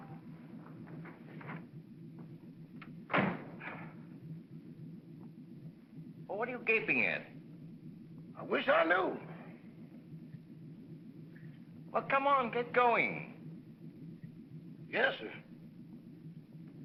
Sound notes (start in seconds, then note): 0.1 engine idling; 3.1 car door closes